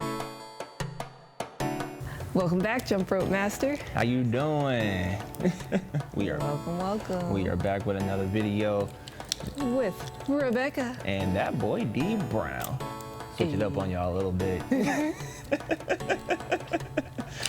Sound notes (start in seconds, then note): 5.3 chuckles; 14.6 both laugh